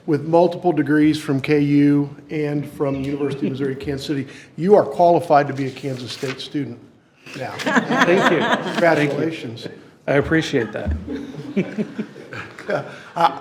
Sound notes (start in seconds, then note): 7.4 all laughing